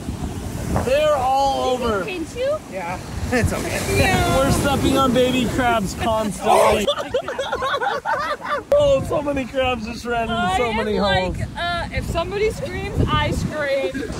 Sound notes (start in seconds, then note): 6.4 everyone laughing